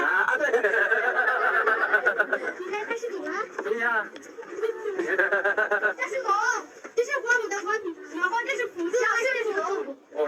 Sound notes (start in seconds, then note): 0.1 laughter